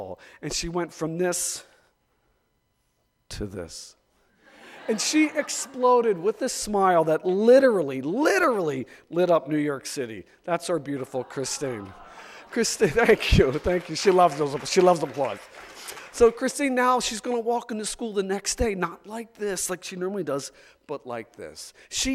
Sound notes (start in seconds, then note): 4.4 audience laughs; 11.0 audience cheering; 14.6 audience laughs